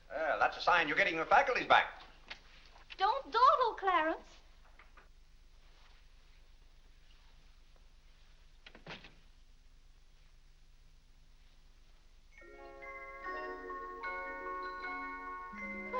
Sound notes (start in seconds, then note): 8.6 door closes; 12.3 soft music